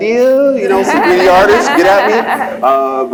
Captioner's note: laughs